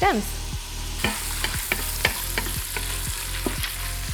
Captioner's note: bacon sizzling